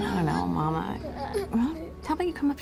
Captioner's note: children straining, grunting